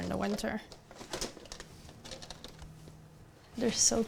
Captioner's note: opening containers